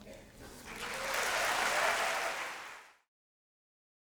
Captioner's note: applause